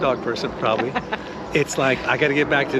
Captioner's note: Nicole laughing